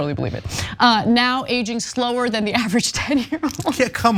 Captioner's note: laugh